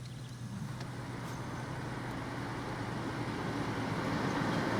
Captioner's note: truck rumbling